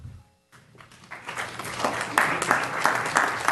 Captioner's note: applause